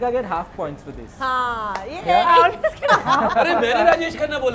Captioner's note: laughs